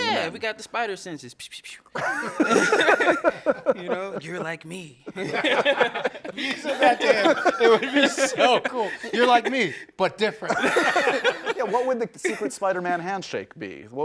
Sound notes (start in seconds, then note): 1.6 spitting; 1.9 laughing; 5.8 laughing; 10.4 laughing